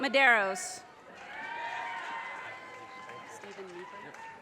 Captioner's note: audience cheers and applause